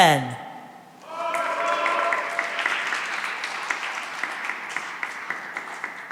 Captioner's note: cheering and applause